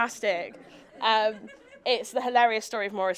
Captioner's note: audience laughing